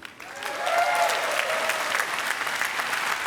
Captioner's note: applause